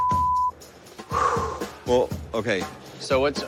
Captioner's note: exhales sharply